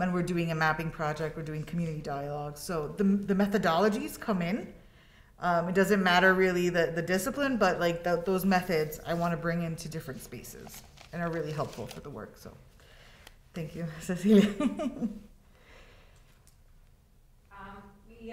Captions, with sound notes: And we're doing a mapping project, we're doing community dialogue. So the methodologies come in. It doesn't matter really the discipline, but like those methods I wanna bring into different spaces and are really helpful for the work. So, thank you, Cecilia. (laughs)